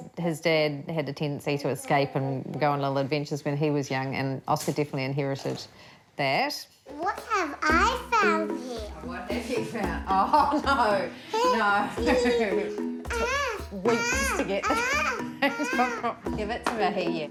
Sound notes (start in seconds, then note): 11.4 laughs; 14.6 laughs